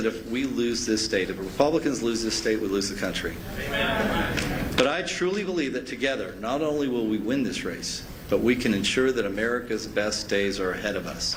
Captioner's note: applause